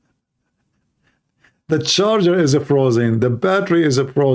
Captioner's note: Ketawa